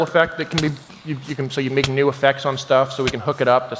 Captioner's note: none